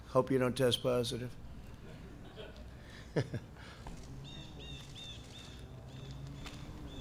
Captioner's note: laughter